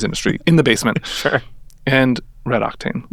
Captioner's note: chuckling